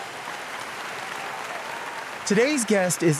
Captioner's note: audience applauds